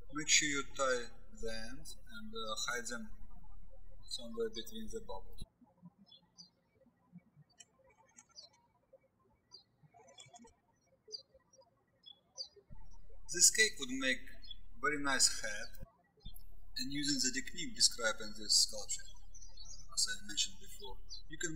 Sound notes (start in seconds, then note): 0.0 birds chirping; 6.5 birds chirping